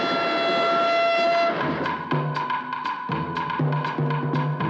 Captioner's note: train Whistle Blows